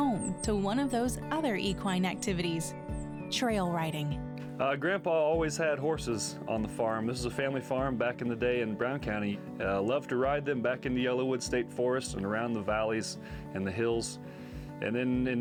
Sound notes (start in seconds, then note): none